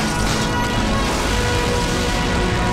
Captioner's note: Explosion